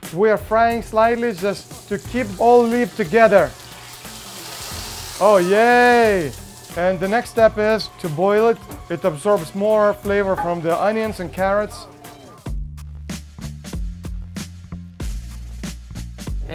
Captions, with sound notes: We are frying slightly just to keep all leaves together. (pan sizzles) Oh yay! And the next step is to boil it. It absorbs more flavor from the onions and carrots. (hip hop music)